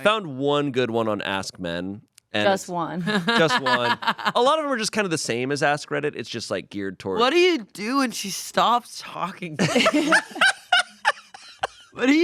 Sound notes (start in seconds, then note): 3.0 laughs; 9.6 everyone laughs